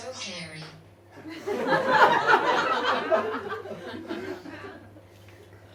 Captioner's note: audience laughs